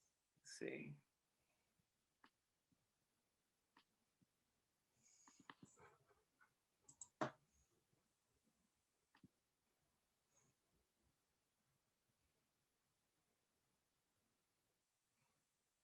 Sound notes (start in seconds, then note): 2.2 silence